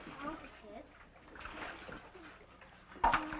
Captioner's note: water splashes; ice clatters & water pours